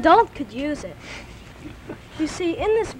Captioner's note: chuckles